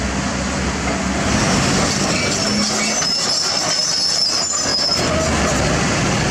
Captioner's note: traffic Loud